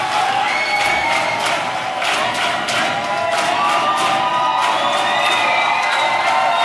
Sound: rhythmic clapping begins

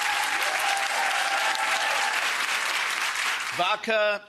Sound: audience cheering

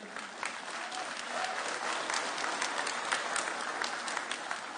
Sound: cheering

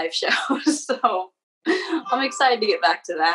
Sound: laughing loudly

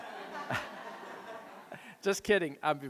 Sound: audience laughing

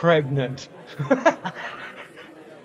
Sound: laughs

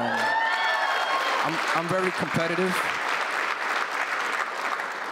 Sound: applause

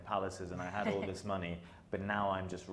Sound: chuckling

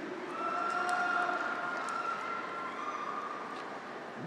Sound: graduates cheer

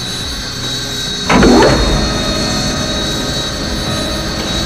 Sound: SPFT's rear hatch opening

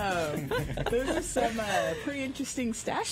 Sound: laughter

